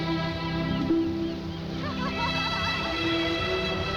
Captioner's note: laughing